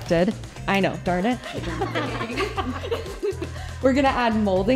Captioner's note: laughing